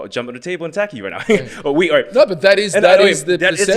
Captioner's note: chuckles